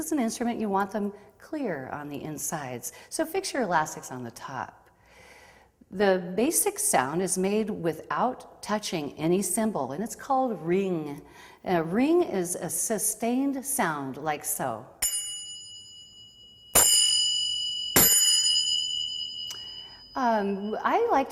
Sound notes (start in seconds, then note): 15.0 ringing or dinging sound